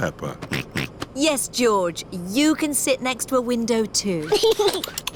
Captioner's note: snorts; giggles